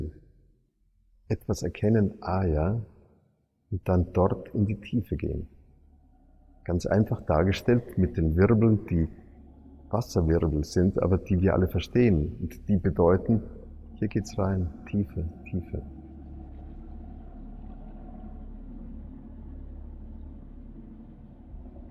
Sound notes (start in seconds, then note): 15.9 underwater noise